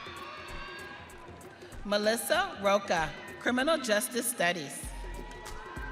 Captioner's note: audience cheering